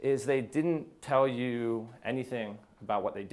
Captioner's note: none